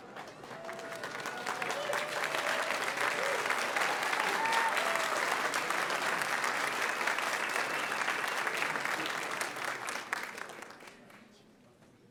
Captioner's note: applause